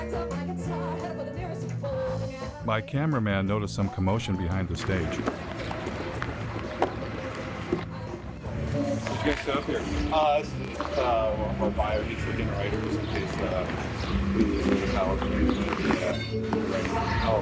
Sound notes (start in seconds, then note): 6.2 thudding